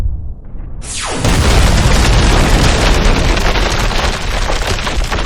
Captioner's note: explosion booming